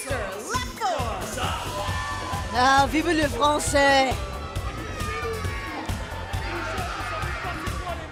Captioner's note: language other than english